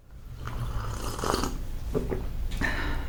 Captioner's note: slurp